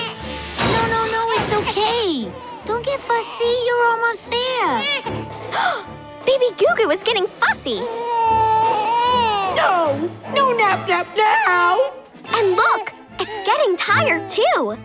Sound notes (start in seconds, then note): 4.7 crying; 5.4 gasping; 7.8 crying